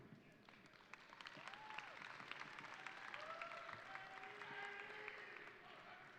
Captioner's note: audience applauding and cheering